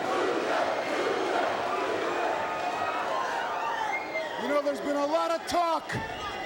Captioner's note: crowd chattering